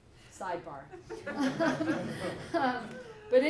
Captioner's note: laughter